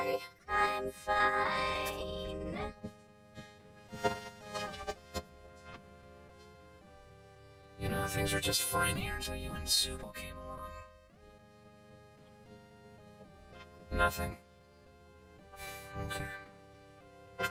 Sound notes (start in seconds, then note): 15.6 sighs